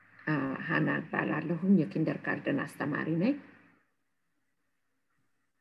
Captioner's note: speaking in foreign language